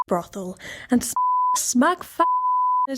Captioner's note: beep